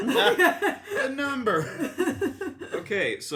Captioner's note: laughter